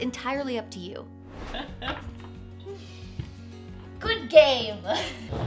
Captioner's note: laughs